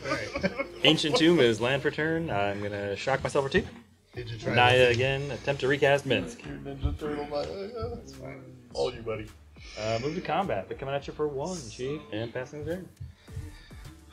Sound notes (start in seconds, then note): 0.0 both laughing; 7.8 laughing